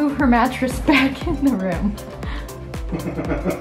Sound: laughs

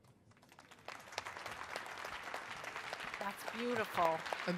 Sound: crowd applauding

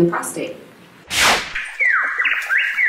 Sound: swish

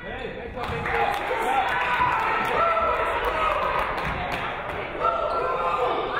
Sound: audience clapping; audience cheering

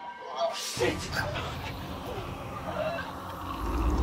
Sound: gurgling

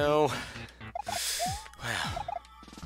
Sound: breathing

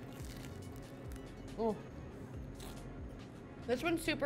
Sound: bread crunching

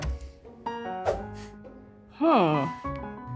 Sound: air whooshing

